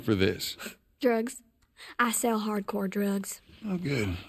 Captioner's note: sarcastically